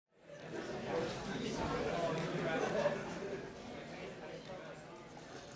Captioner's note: hallway chatter